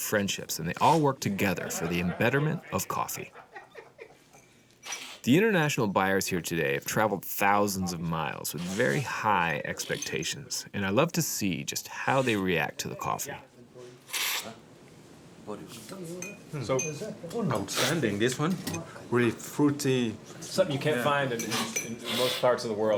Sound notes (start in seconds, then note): 14.0 slurps